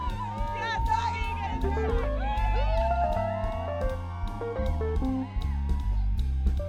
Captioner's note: students laughing and cheering